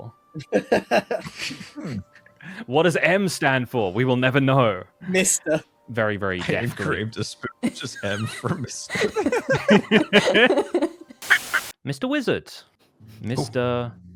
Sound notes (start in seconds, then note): 0.4 Grian laughs; 9.3 others laugh